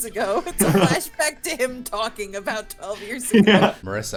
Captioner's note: talking